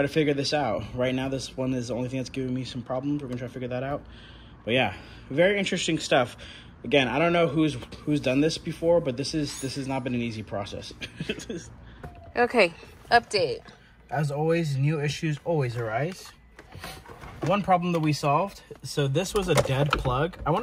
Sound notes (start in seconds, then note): 10.8 laughs